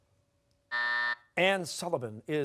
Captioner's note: buzzer